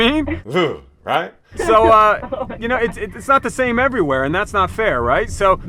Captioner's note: laughter